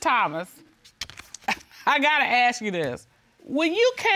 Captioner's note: scoffs